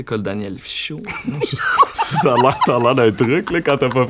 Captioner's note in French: rires